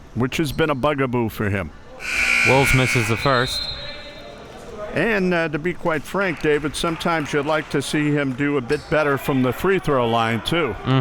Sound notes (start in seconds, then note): 2.0 buzzer buzzing